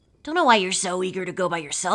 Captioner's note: none